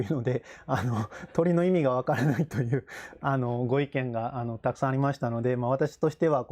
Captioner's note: laughs